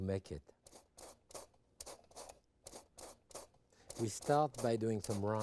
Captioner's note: grapefruit scraping; grater thumping